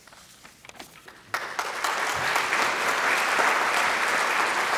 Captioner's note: applause